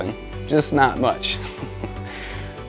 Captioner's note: ha ha